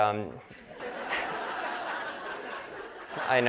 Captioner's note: laughter